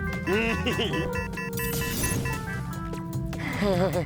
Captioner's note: giggles; alert beeping; nervous chuckle